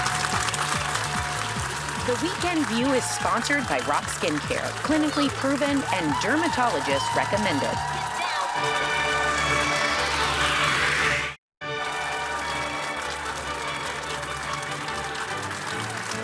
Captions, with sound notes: The Weekend View is sponsored by Roc Skin Care. clinically proven and dermatologist recommended. (audience cheering) (upbeat music)